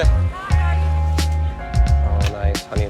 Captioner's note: people chattering